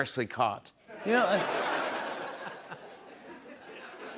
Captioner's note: laughter